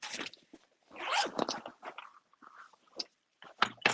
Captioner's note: zipper zips